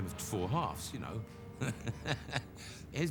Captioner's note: chuckles